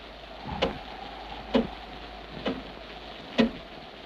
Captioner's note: wind howls